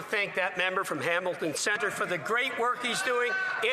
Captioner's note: some Applause